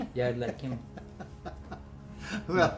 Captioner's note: laughing